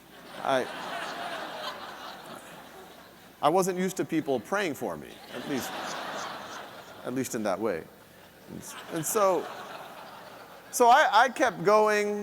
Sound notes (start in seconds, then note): 0.1 audience laughing; 5.1 audience laughing